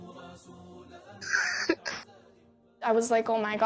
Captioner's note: laughs